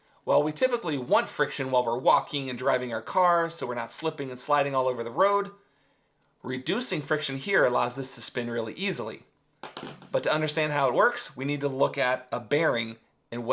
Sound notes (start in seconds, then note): none